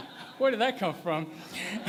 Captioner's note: laughter